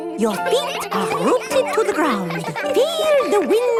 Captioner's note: all giggling